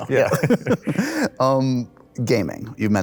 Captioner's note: laughter